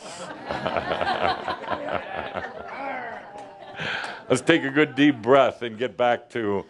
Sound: laughter

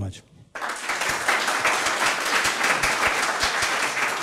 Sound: audience claps

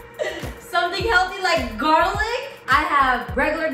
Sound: laughs

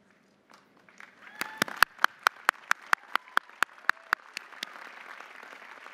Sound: audience applauding

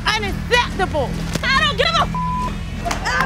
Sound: beep

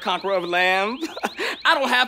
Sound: laughs

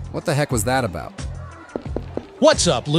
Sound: footsteps

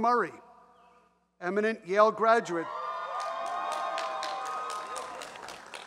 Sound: audience cheers

